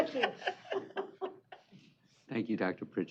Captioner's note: chuckling